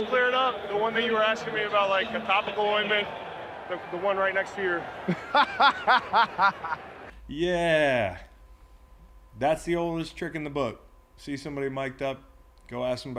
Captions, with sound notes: the one that you were asking me about, the topical ointment, the one right next to your-- (laugh) - Yeah, that's the oldest trick in the book, see somebody mic'd up, go ask